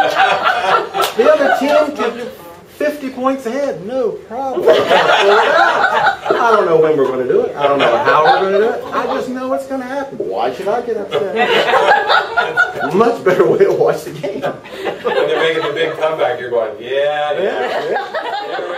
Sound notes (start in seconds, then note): 4.5 group laughter